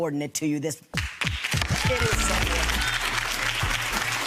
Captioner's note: applauding